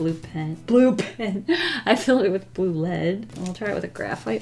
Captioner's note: laughs